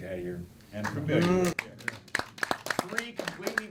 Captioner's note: clapping and booing